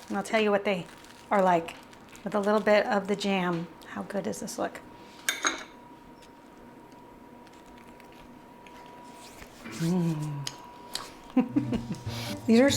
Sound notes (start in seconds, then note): 7.7 crunches; 11.2 laughs